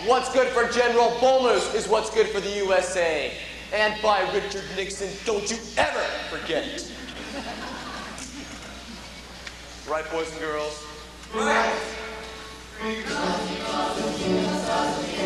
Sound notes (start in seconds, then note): 6.8 laughter